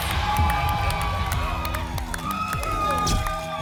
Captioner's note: applause and cheering